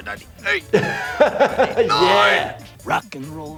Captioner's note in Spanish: risas